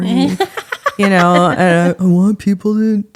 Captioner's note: laughing